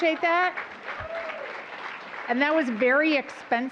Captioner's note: applause